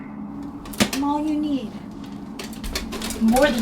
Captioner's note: armor thuds